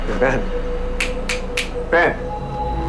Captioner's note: snaps fingers